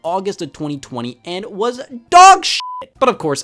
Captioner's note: beep